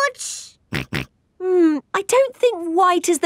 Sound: snorts

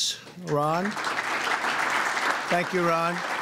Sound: applause

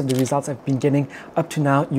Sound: camera clicking

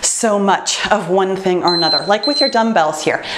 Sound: timer beeps

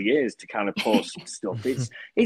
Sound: Christina laughing

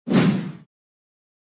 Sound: woosh

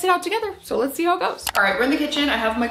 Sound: mouse clicks

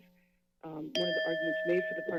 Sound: bell sounds

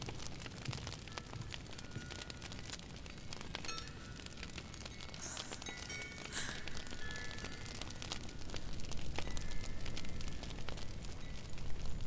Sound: wind chimes ringing

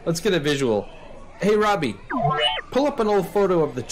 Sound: buzzes

